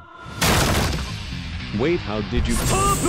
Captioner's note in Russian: бам